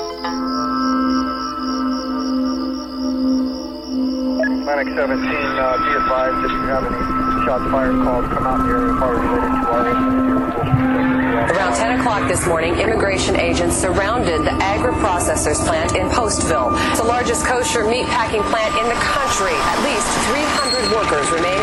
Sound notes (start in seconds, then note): 1.1 police chatter